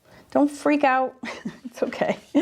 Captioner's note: laughs